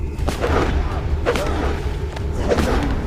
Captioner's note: whooshing